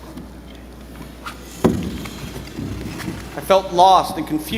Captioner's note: chair scraping